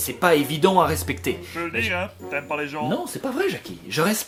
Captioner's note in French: voix hors champ